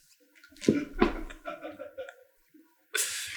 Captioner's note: laughing in background